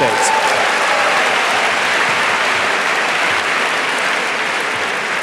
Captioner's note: audience applauding